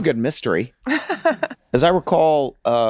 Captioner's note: laughs